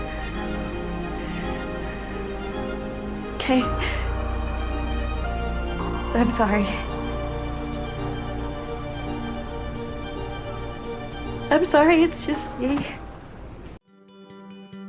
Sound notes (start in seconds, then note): 11.6 voiceover